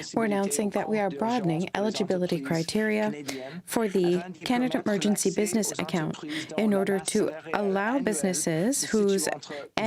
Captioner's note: speaking french